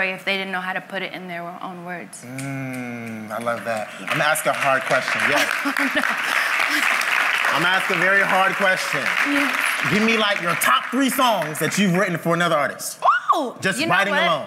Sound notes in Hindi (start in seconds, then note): 5.1 तालियां